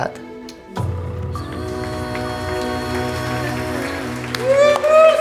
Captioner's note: applause